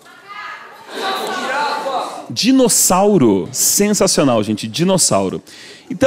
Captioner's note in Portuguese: plateia dá sugestões